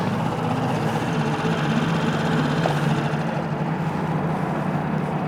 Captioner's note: boat engine chugging